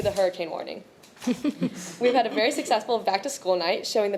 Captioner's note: audience chuckling